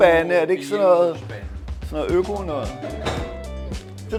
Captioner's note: Danish